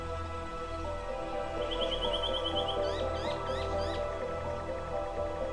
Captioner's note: birds twitter